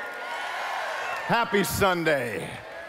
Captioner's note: cheering